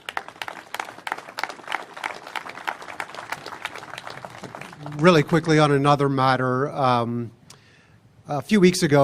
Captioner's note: applause